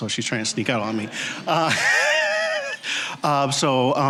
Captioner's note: all laughing